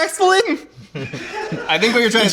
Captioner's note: laughing